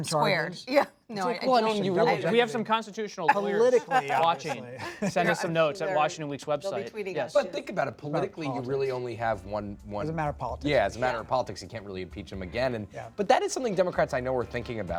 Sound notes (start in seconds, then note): 3.2 laughter